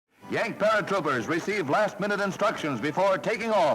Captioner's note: radio Announcer